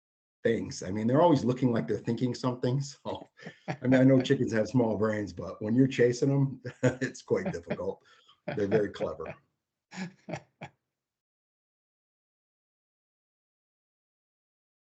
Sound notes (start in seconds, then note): 8.5 laughs